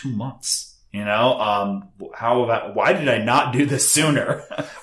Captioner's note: chuckles